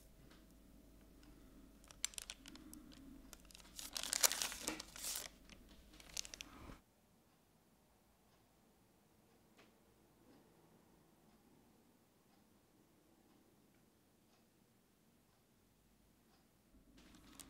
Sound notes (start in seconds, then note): 3.2 rustling